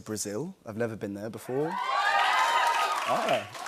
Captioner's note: cheers and applause